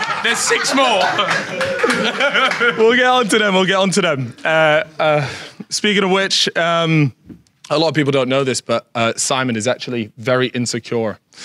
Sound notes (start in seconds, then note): 0.0 Sidemen laugh